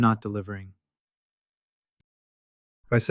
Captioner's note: pause